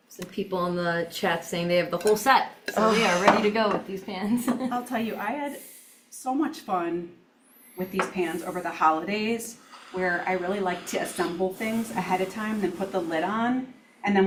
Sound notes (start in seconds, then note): 4.3 chuckles